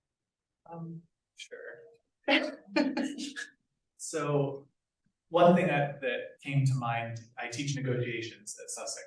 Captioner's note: laughing